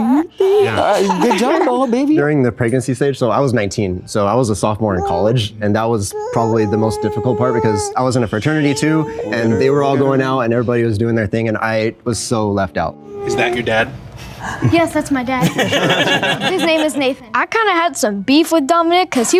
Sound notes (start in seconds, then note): 15.4 group laughing